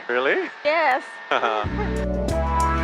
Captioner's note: giggles; cheerful music